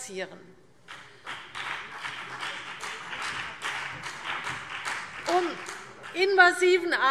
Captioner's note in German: Beifall BÜNDNIS 90/DIE GRÜNEN und vereinzelt CDU